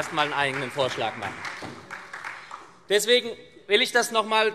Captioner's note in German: Beifall SPD und Freie Demokraten